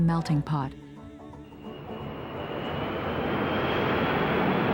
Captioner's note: jet engines roar